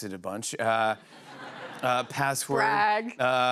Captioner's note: laughter